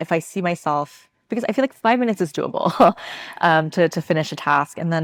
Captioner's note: chuckles